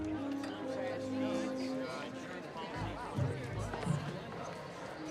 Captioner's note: background chatter